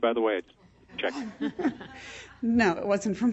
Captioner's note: laughing